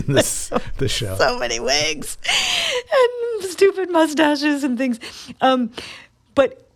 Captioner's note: laughter